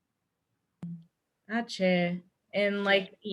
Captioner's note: non-english speech